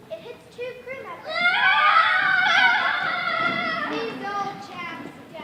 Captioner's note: crew yelling